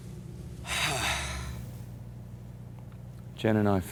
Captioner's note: exhales deeply